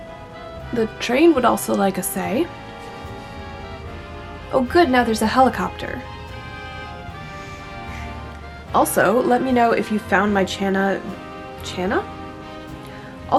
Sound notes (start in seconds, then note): 0.0 train whistle in distance; 7.9 sigh